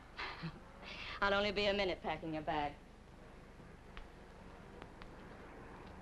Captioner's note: chuckles